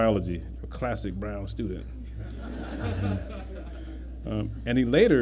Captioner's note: laughter